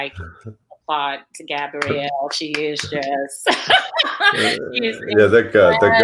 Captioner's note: laughs